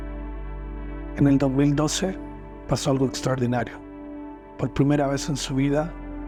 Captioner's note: slow music continues; narrator speaking in foreign language